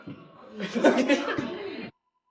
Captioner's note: laughs